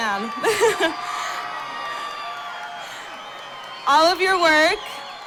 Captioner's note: cheering